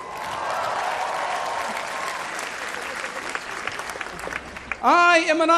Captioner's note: cheering